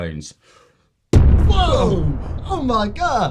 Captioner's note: bomb explosion